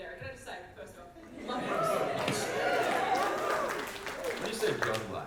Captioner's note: audience applause